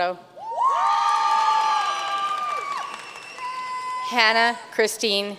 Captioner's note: audience cheering and applauding